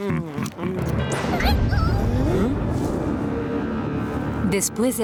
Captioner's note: thunderstorm noises